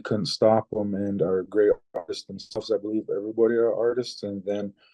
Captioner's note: mic cuts